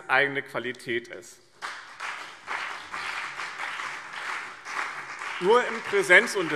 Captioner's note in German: Beifall BÜNDNIS 90/DIE GRÜNEN und CDU